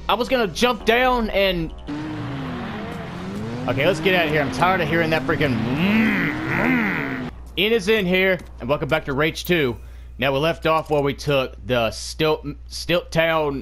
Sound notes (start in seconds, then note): 6.2 making car noices